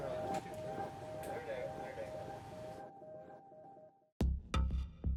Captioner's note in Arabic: الضابط يتحدث بهدوء